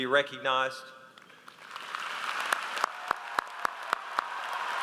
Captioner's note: audience applauds